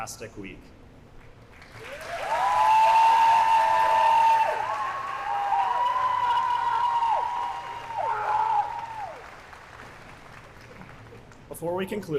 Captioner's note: applause